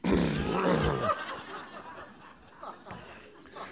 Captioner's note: laughter